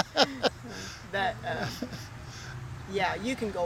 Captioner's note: laughing